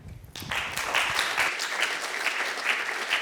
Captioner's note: applause